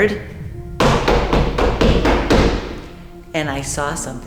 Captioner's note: loud Footsteps